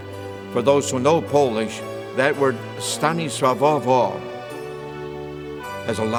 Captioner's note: speaks Polish word